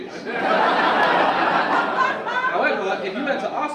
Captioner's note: audience laugh